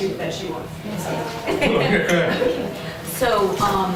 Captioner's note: laughter